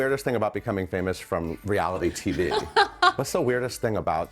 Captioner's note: laughing